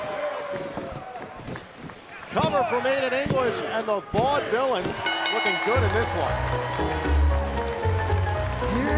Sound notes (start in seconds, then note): 5.0 bell; 7.6 cheers & applause